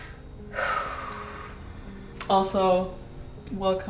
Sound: exhales

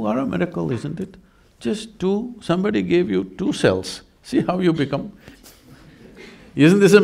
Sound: laughs

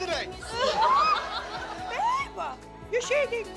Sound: laughter

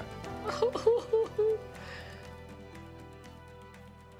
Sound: crying

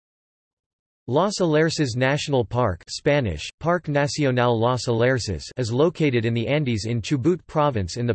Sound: Spanish: Parque Nacional Los Alerces

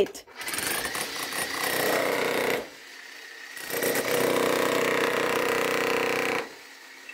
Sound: jackhammer

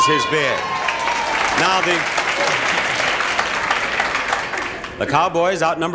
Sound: audience applauding and cheering

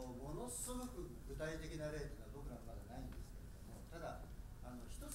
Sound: speaking in foreign language

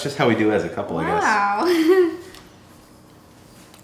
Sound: laughs

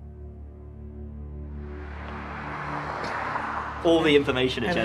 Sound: traffic humming; dissonant music

